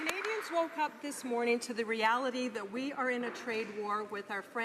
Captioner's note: some Applause